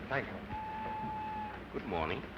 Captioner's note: train whistling